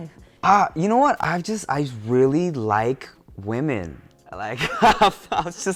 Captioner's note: laughs